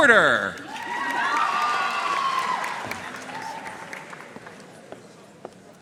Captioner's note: audience cheering and applauding